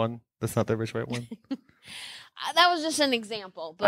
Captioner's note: laughing